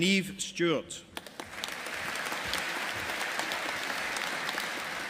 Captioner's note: audience applauding